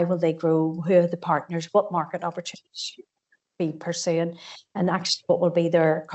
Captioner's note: audio distorts 48.26